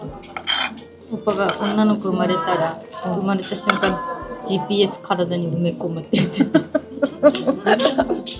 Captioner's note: laughs